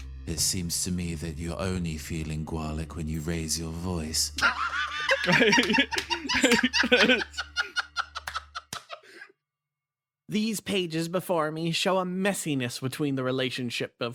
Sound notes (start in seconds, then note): 4.4 laughs